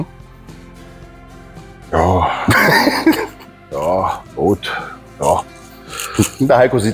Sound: laughing

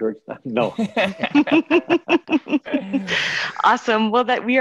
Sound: laughing

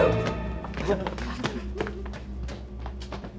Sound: suspenseful music; laughter

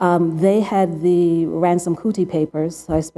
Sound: none

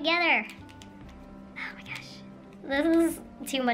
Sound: whispering

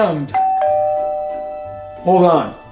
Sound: ding dong

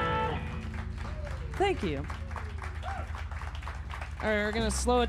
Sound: cheers and applause

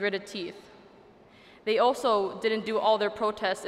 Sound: none

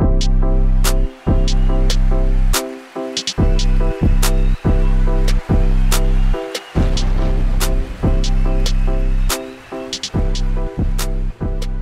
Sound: applause

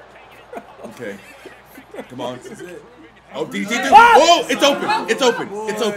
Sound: laugh

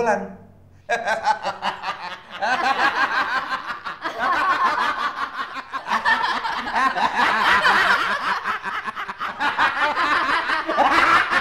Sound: laughing

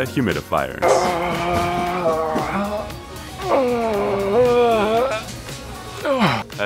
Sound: struggling

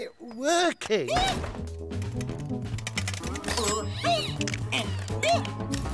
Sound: yelling uncontrollably

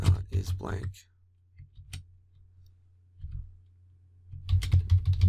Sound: typing

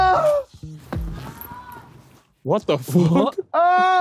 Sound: distant person screaming; laughing

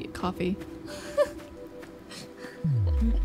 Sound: laughs

